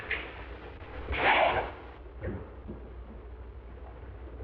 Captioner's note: gunfire blasting